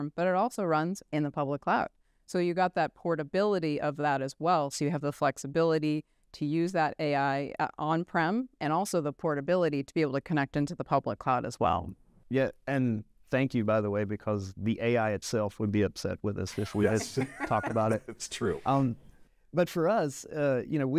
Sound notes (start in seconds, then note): 16.5 chuckle